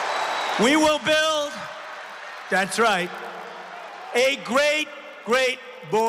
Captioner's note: applause; cheering